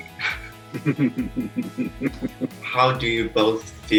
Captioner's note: chuckles